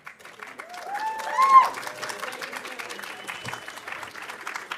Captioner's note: audience applauding